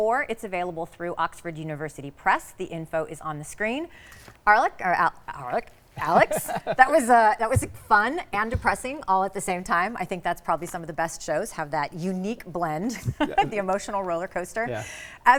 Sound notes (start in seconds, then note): 6.0 laughs